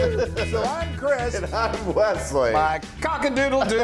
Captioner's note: laugh